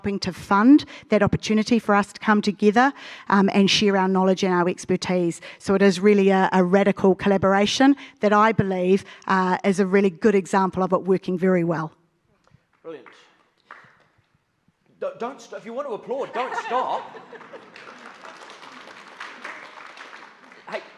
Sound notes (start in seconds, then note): 16.1 audience laughs; 17.2 audience claps